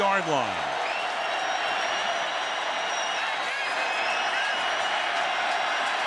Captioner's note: crowd cheering